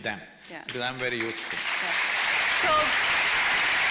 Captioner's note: applause